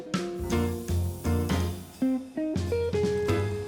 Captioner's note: air hissing